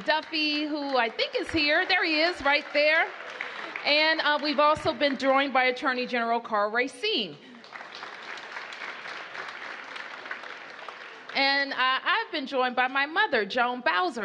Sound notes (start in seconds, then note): 7.4 applause